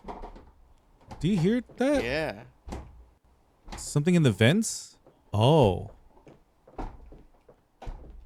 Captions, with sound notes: Do you hear that? Yeah. Something in the vents? Oh. (footsteps)